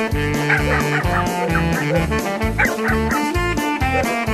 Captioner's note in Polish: szczekanie